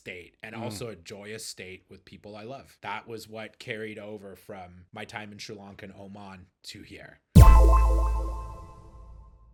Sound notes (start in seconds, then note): 7.4 tone echoing